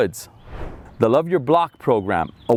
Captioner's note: air whooshing